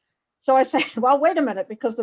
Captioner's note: laughs